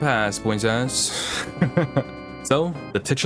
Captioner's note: laughter